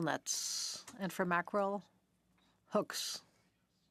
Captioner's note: speaking French